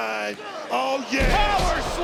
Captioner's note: body thudding